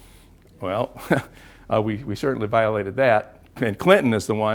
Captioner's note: laugh